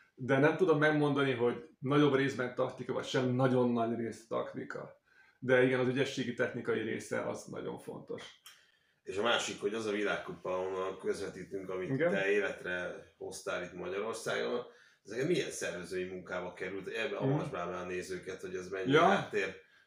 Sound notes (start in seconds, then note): 8.4 flicking